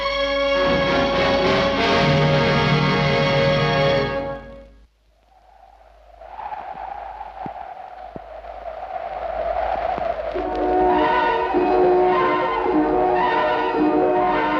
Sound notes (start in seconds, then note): 5.0 wind howls; 10.3 eerie dramatic music